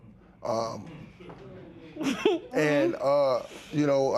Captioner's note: light laughter